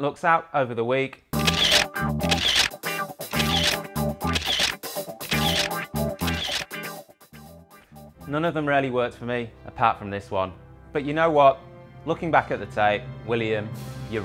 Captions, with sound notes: different looks out over the week. (Funky music) (Camera shuttering) None of them really worked for me apart from this one. But you know what? Looking back at the tape, William, you're right.